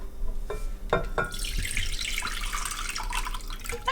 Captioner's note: liquid trickling